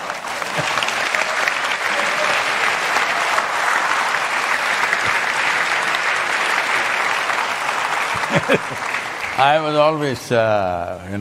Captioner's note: laughter/Applause; laughs